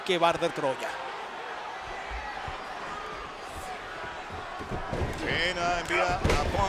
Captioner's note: applause